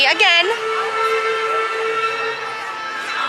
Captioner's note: whistle continues